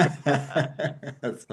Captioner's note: both laughing